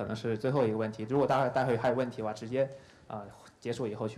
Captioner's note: speaking in Chinese